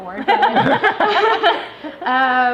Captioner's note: laughing